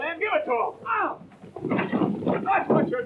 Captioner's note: crashing